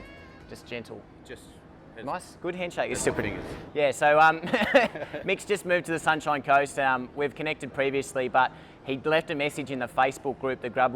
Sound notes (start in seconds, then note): 4.4 laughs